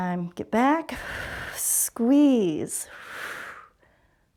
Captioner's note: exhales